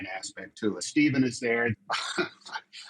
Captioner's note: chuckles